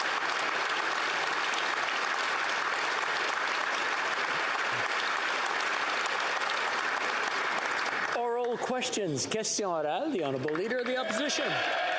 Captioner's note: applause